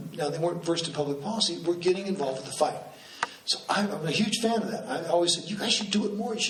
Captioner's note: none